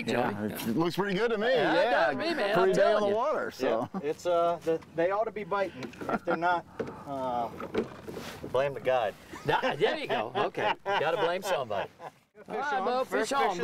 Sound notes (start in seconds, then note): 9.3 laughing